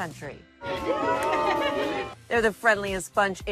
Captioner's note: group cheering